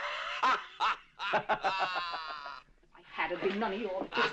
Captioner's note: laughing; guffawing